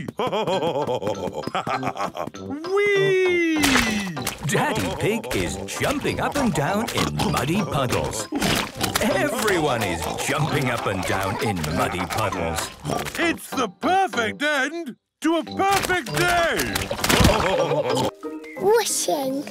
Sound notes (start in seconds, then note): 3.6 splashes